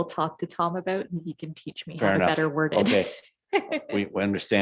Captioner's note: chuckles